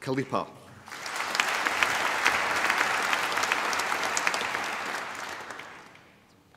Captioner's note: applause